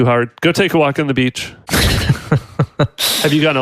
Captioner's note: laughs